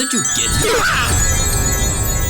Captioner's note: agent l screams